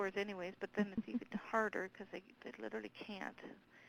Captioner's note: someone else chuckling